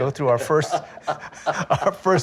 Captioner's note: laughing